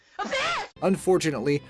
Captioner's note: girl screaming indistinctly